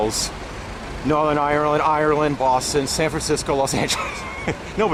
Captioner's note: laughter